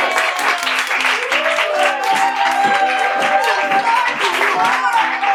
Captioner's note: applause